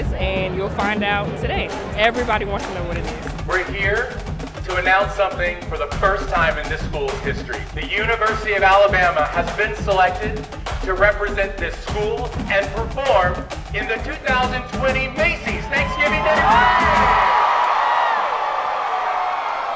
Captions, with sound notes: "and you'll find out today." Everybody wants to know what it is. - We're here to announce something for the first time in this school's history. The University of Alabama has been selected to represent this school and perform in the 2020 Macy's Thanksgiving Day Parade! (crowd cheers)